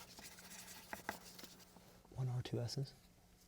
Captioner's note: whispering